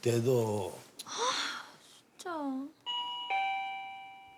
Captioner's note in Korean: 초인종 소리